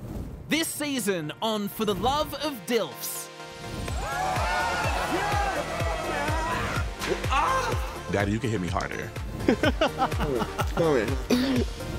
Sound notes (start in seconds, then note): 3.9 people cheering; 9.4 laughing